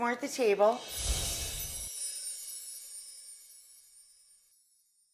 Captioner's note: chimes tinkling